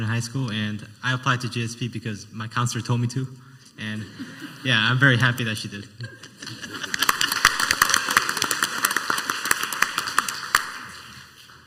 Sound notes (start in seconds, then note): 6.0 laughing; 8.2 laughing and clapping